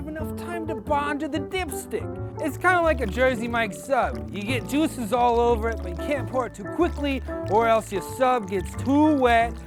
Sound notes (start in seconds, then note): 3.8 water pouring